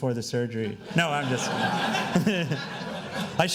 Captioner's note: laughing